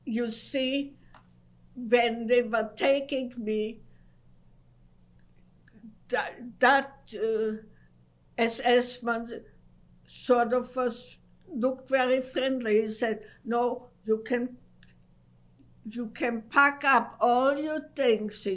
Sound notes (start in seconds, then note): 3.9 pauses for 3 seconds